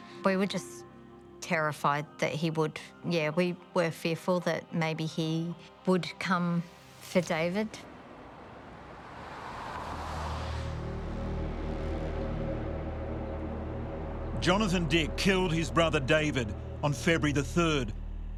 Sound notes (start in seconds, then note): 8.2 car engine revving; 12.0 dramatic music